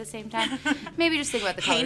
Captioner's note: laughs